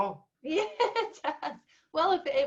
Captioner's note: laughs